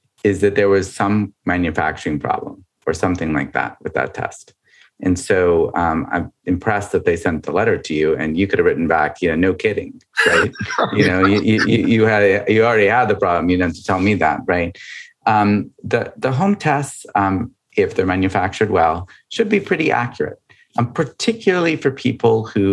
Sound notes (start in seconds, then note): 10.2 laughing